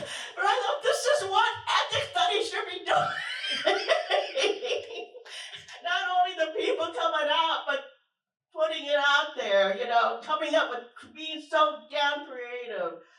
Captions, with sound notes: [Laughter]. But I thought this is what ethnic studies should be doing. [Laughter]. Not only the people coming out, but putting it out there. You know, coming up with, being so damn creative